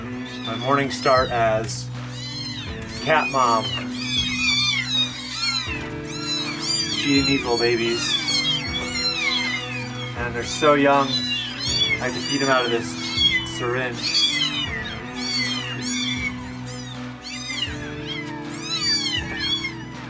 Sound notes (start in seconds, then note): 15.5 kittens meowing